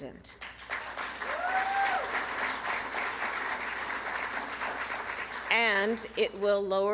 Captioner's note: applause